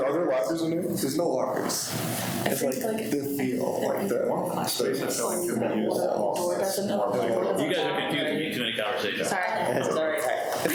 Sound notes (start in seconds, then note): 4.1 faintly speaking